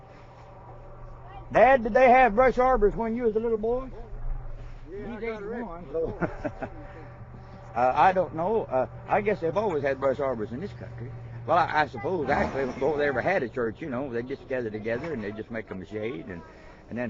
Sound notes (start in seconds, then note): 5.7 laughing